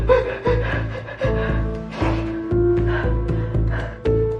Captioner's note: s sobbing